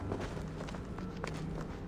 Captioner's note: none